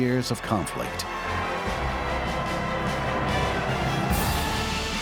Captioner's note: applause continues